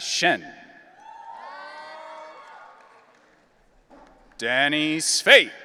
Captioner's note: audience cheering